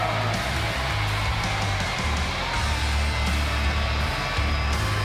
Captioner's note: cheers and applause